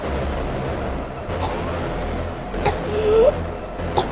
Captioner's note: Samuel grunts; Ashley coughing